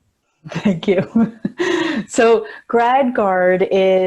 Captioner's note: chuckling